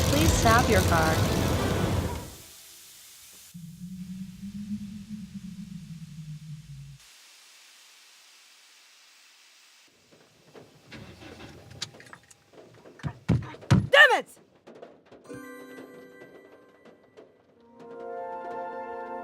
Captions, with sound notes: Please stop your car. [coolant hissing] [soft raindrops] God damnit!